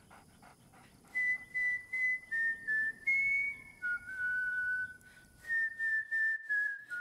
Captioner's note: whistling